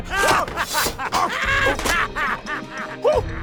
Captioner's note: yelping and screaming